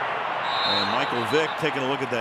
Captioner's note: whistle